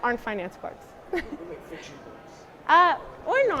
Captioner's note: laugh